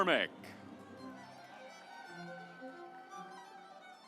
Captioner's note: audience applauds; stately music